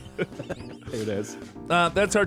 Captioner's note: laughs